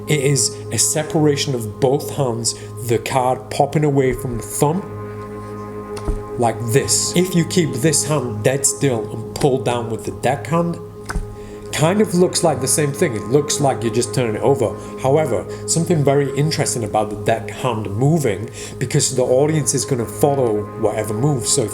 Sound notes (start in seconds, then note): 6.0 cards flips